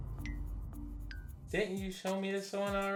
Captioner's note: dramatic eye blinking noise